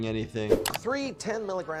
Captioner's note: air whooshing